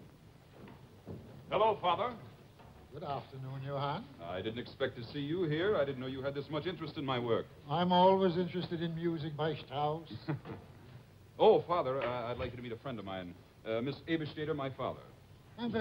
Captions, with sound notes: Hello, father. Good afternoon, Johann. - I didn't expect to see you here, I didn't know you had this much interest in my work. - I'm always interested in music, my Strauss. - (chuckles) Oh father, I'd like you to meet a friend of mine. Miss Ebesteder, my father.